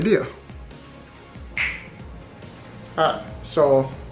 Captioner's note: fingers snapping